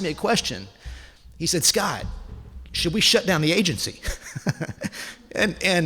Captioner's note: laughs